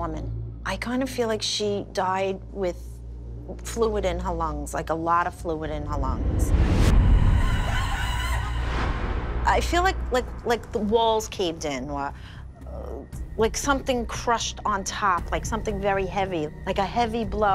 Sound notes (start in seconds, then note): 7.1 screams echo